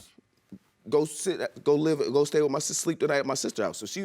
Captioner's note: stammers